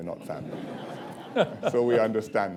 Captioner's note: laughter